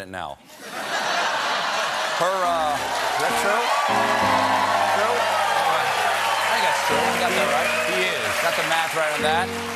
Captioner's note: laughter; piano riff